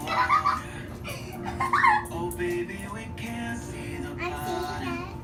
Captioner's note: laughter